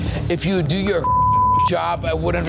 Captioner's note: beep